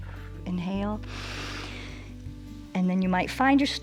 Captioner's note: inhales